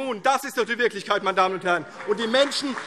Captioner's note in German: Beifall CDU und BÜNDNIS 90/DIE GRÜNEN